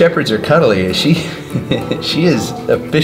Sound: laughs

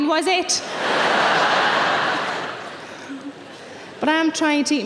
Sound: audience laughing

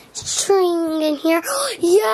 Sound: gasps

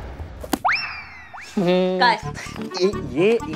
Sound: humming

